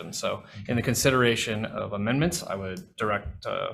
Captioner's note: none